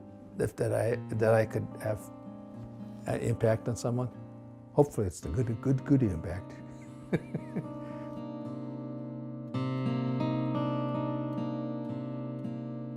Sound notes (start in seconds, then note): 6.8 laughs